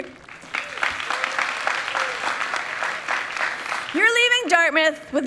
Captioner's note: people clapping